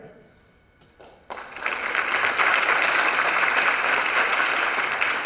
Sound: applause

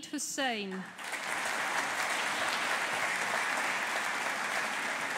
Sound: audience applauding

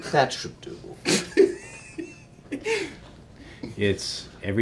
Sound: laughing

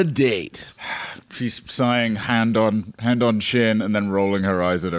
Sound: sighs

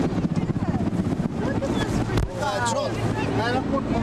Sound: chatter

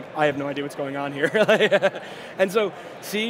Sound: laughing

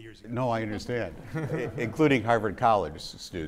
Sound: audience laughing

